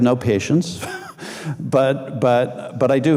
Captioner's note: laughing